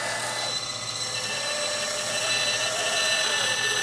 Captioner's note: saw buzzing